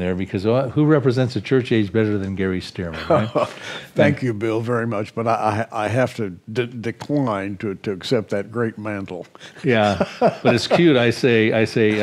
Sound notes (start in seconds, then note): 2.9 chuckles; 9.6 laughs